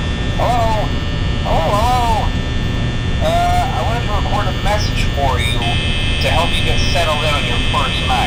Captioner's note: phone Call